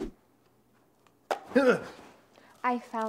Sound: Silver Screamer gasps

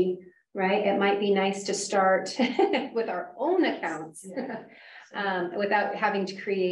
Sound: laughs

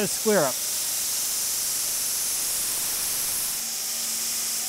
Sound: machine sawing

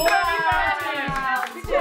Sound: bell dings; clapping

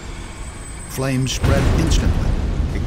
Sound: sound of explosion

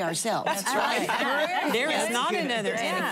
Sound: laughter

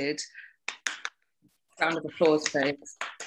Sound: clapping

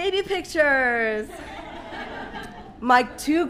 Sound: audience laughing

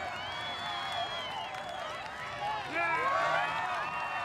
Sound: crowd clamoring

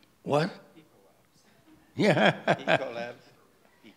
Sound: laughs

